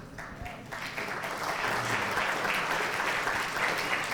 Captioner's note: audience applauds